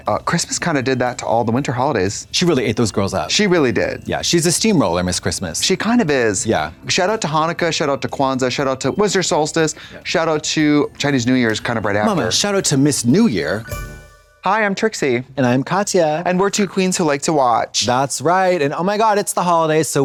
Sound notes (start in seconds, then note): 13.7 bright chime